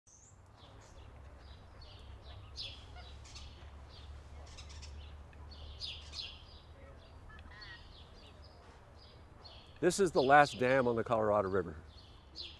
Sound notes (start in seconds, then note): 0.3 birds chirp